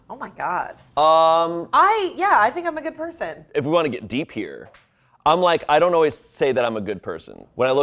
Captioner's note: none